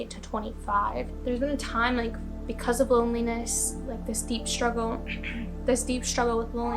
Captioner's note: clears throat